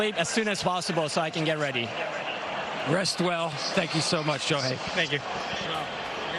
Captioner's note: speaking japanese